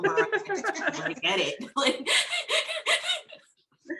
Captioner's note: laughing; laughs